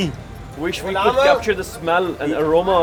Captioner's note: man speaks foreign language